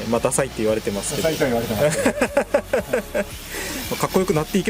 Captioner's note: laughs